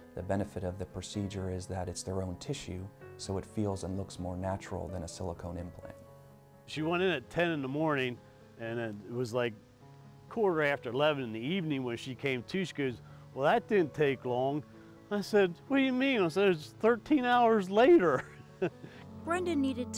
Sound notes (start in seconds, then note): 18.1 laughs